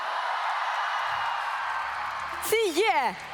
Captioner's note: applause